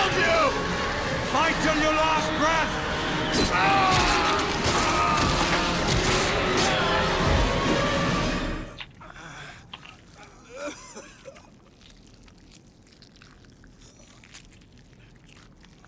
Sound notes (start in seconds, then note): 3.4 creatures screeching; 3.7 Perimedes groaning